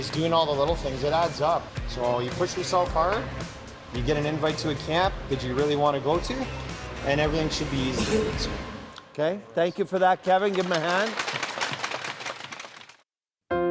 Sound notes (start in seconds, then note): 7.9 boy coughs; 9.8 team clapping